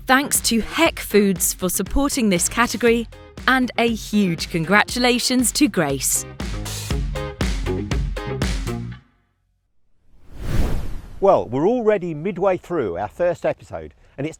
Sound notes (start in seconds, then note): 10.0 air whooshes